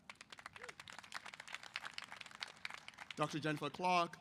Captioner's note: applause